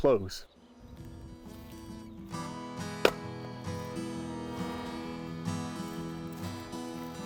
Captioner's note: soothing music; axe thumping